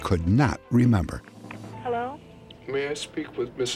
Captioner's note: on phone